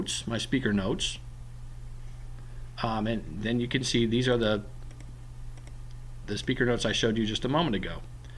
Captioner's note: clicking